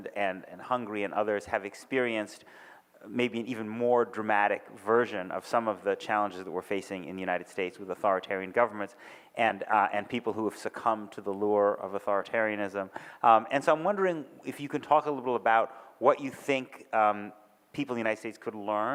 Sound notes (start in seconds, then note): none